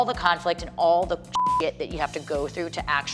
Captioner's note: beep